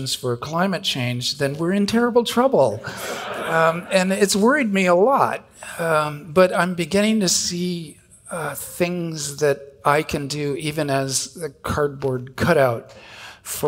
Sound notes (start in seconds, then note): 2.8 audience laughing